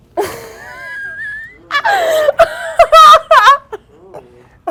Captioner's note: girls laughing